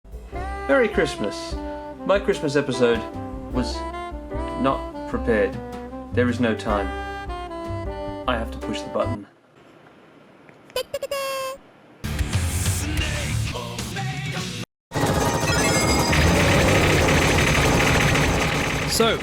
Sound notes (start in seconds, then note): 10.9 compressed japanese witch sounds; 15.5 intense shmup explosions